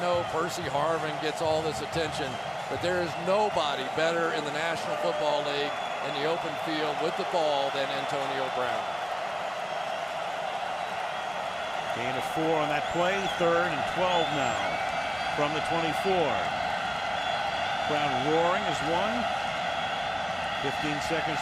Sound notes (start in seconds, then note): 10.0 cheering